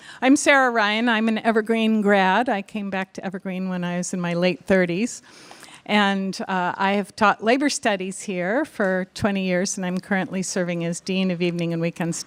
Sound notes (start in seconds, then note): none